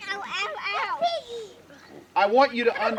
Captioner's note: children's noise